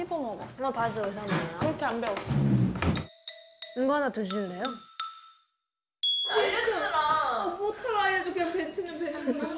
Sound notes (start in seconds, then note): 8.3 hesitant